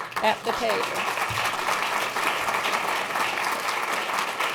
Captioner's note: applause